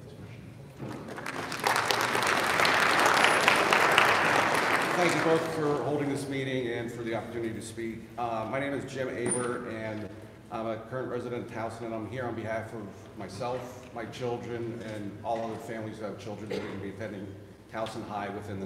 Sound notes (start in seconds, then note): 0.8 audience applauding